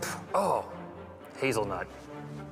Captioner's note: spit